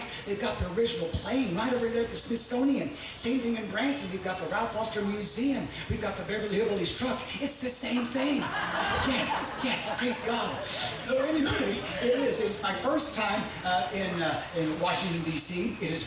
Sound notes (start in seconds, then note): 7.9 audience laughing